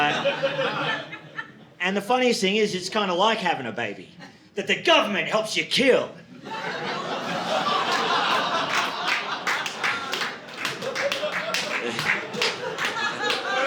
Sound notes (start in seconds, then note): 8.4 audience laughing